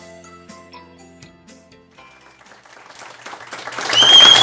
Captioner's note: applause and whistling